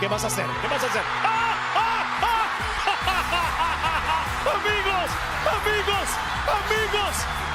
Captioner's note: applause; laugh